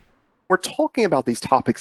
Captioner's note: whoosh Sound